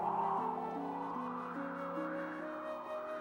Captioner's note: wind howling